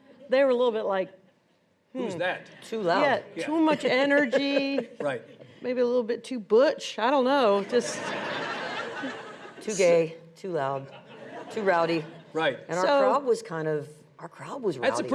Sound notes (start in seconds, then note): 3.4 laughing; 7.6 audience laughs